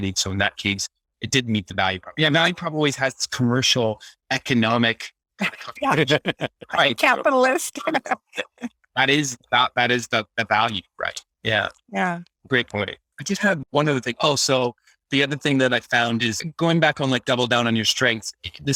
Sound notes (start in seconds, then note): 9.0 laughs